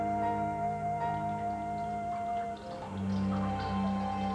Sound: water trickling, dripping

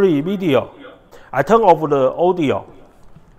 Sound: tv speaker

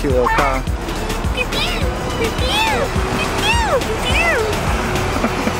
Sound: both mimic bird call

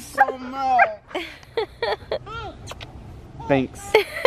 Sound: laughing

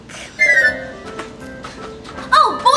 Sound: magical sound

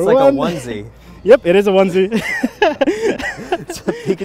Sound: laughs

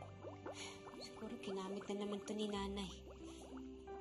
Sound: sighs

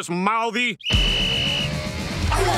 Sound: whistle blowing; groaning

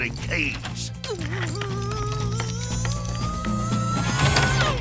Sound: groaning

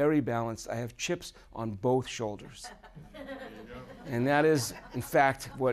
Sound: audience laughing

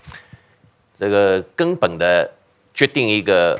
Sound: speaking chinese

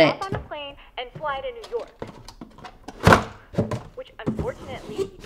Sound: box thudding

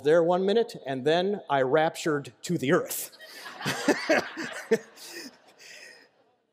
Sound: laughter

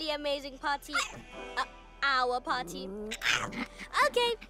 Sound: yaps

